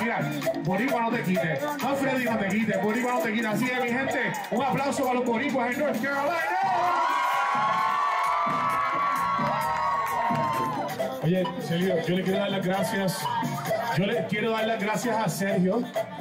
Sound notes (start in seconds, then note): 9.9 crowd; 10.5 cheers